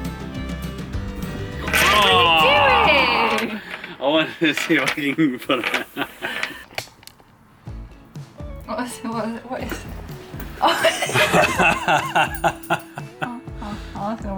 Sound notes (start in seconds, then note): 5.2 laughs; 10.7 laughs